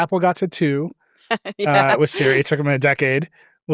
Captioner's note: chuckles